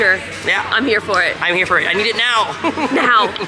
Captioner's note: laughs